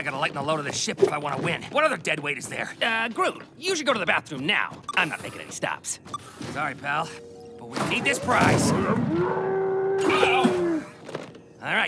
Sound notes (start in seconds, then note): 6.0 beeps; 9.0 screaming